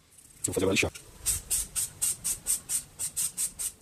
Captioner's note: sanding the soot - 200 grit sandpaper